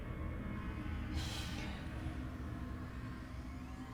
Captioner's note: gasps